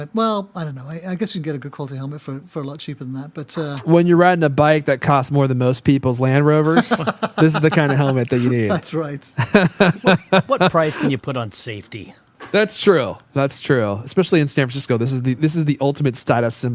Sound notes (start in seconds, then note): 6.7 laughter